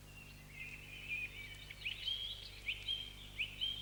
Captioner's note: birds chirping